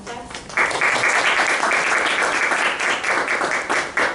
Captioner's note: applause